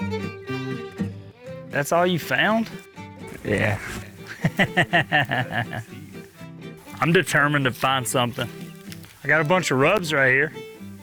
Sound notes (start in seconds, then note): 4.2 laughs